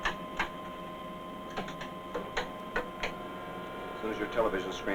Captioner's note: switches click